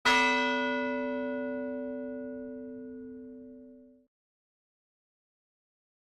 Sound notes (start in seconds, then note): 0.0 bell rings